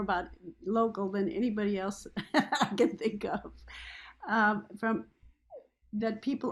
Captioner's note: laughs